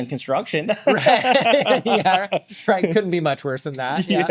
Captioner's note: both laughing